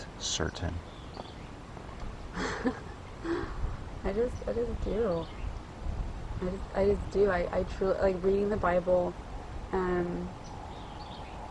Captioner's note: laughs